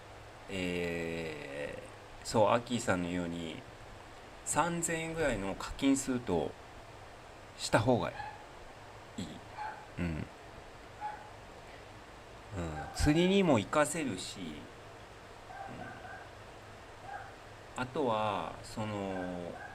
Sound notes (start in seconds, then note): 10.0 clears throat